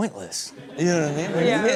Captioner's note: audience laughing